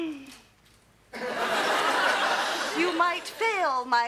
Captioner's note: audience laughs